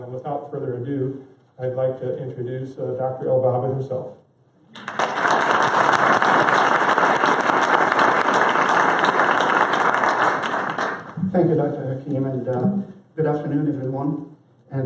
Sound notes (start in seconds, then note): 4.7 applause